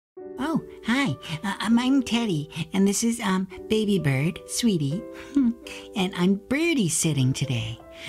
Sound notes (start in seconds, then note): 5.1 sighs happily